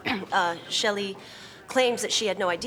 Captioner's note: clears throat